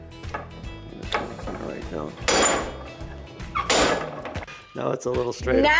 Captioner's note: clanking